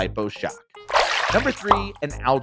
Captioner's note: water splashing